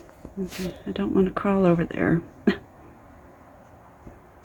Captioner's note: laugh